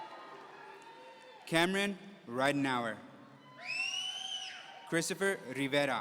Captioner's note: audience cheering; audience cheering